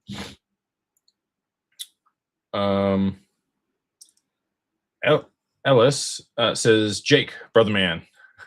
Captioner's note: snorts